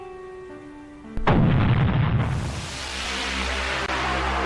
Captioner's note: booming